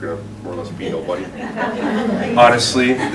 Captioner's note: laughter